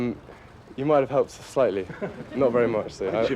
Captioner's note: laughing